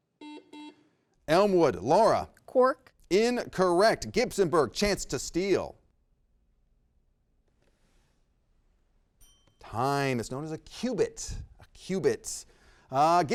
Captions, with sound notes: (buzzer rings) Elmwood. Laura. - Quark? - Incorrect. Gibsonburg, chance to steal. (bell dings) Time. It's known as a qubit. A qubit.